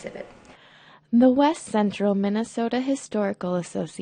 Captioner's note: voiceover